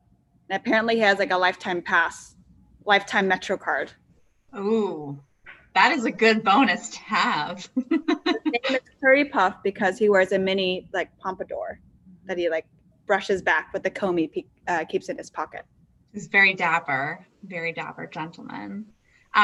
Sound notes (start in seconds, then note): 7.6 laughs